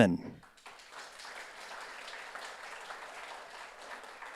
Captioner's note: audience applauds